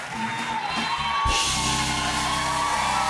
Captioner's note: cheers and applause